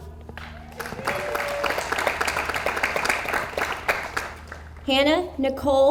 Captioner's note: audience applauds